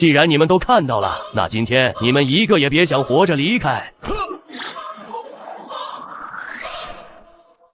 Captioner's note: maniacal laughter